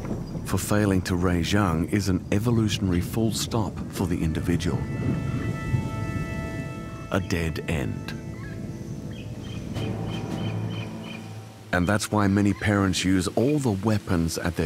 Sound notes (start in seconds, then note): 8.9 birds chirping; 8.9 dramatic music playing